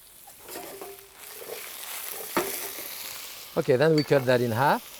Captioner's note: pan sizzling